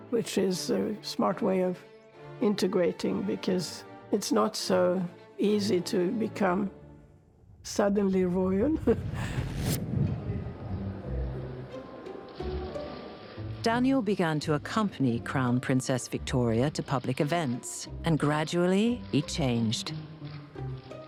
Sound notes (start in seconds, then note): 9.2 laughing; 10.1 upbeat music